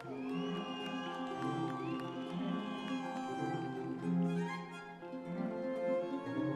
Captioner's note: audience cheers; vibrant music continues